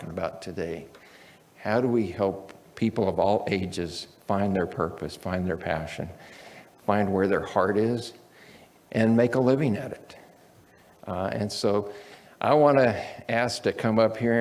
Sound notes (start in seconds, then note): none